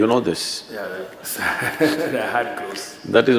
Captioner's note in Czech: Smích